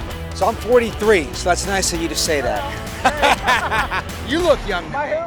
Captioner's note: laughs